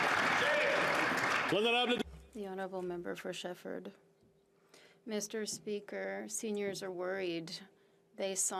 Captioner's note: some Applause